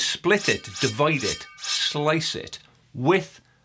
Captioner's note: slicing whoosh